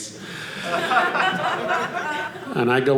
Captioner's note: audience laughing